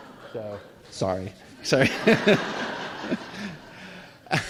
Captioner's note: laughter